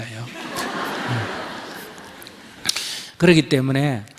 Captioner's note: audience Laughter